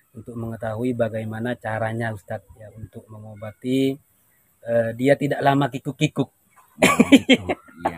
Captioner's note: laughs